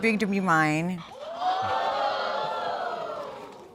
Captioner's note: audience exclaiming